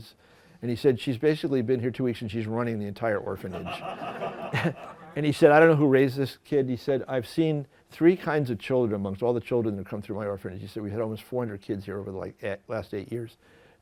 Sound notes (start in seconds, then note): 3.4 laughter